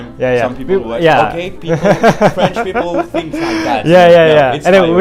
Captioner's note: laughs